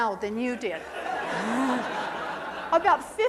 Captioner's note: audience laughing